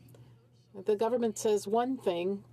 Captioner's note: speaking french